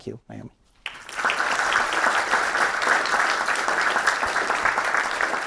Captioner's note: audience clapping